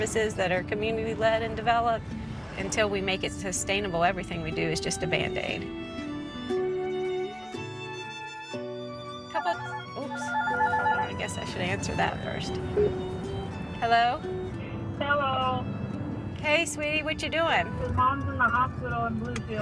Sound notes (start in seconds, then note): 10.2 phone ringing; 12.7 button beeping